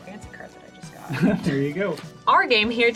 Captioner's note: laughing